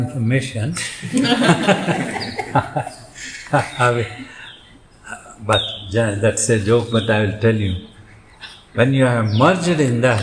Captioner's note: laughs